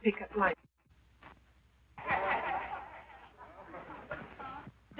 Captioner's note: men laughing